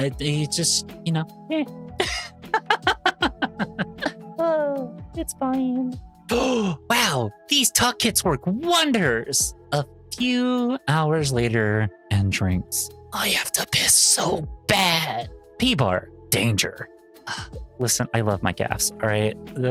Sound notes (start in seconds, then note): 2.4 laughing; 6.3 gasping; 6.3 sigh